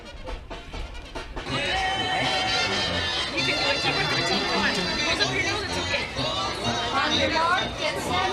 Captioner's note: crowd cheering